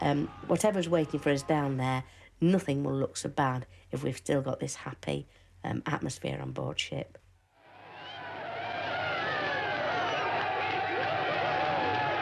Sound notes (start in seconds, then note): 7.6 crowd cheering